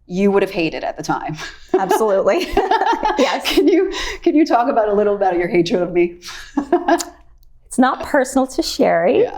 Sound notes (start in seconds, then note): 1.4 laughing; 6.3 laughs